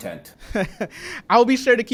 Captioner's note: laughs